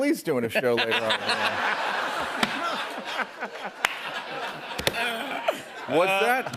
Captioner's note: laughter